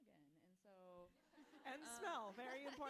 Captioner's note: audience laughing